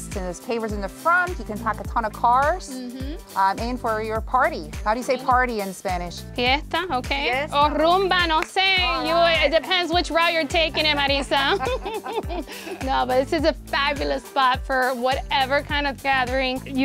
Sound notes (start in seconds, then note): 7.2 speaking Spanish; 11.8 laughing